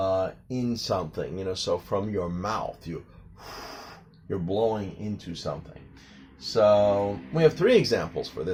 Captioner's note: a blowing sound